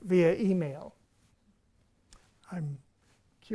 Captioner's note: silence